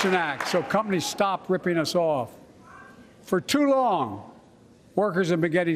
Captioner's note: applause